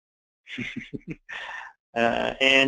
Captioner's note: laughing